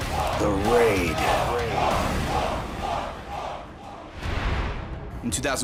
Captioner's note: fans chanting